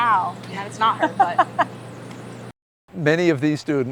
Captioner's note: laughing